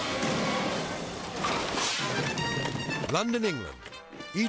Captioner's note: screen whooshes